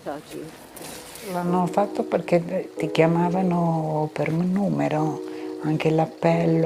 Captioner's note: speaking in foreign language